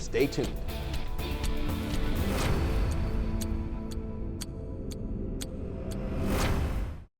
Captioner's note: clock ticking; tense music